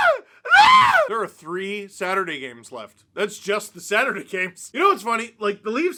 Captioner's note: more screaming